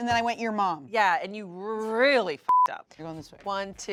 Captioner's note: beep